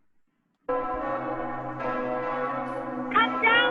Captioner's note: bells tolling